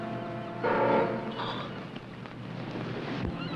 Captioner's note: sobs